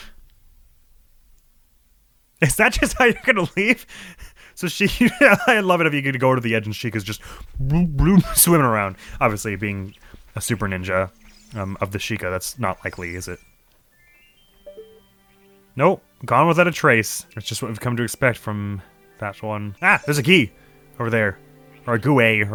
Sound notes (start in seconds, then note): 7.6 fake swimming noises